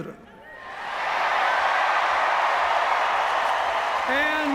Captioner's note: cheers, applause